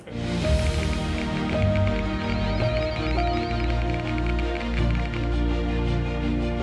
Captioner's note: bright music; keypads clacking